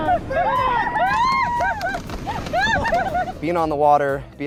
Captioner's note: all cheering